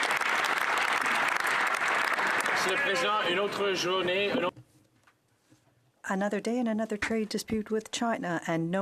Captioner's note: some Applause